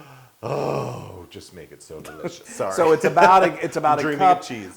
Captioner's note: laugh